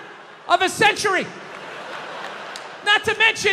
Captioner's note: crowd laughs